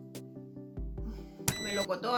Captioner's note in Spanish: suspiro de pena; pitido agudo